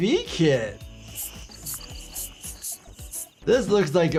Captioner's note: pump hissing